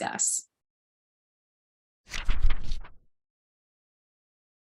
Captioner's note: fluttering Pages